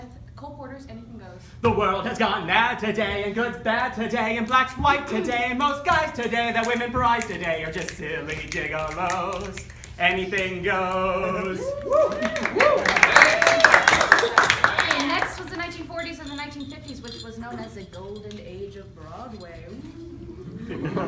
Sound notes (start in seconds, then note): 11.8 applause